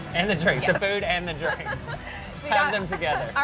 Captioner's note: laughing